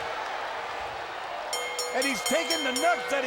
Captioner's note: bell rings